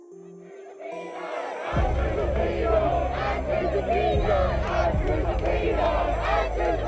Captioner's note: crowd chanting